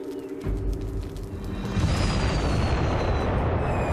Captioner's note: loud explosion